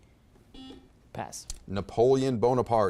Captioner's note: buzzer beeps